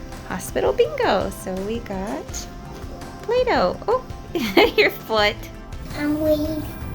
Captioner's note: laughter